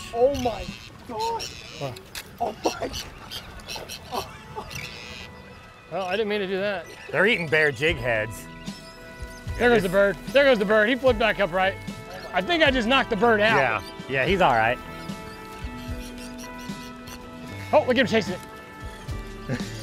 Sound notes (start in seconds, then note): 1.5 bird squawks